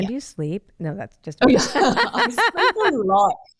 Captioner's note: both laughing